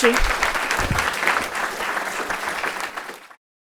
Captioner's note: applause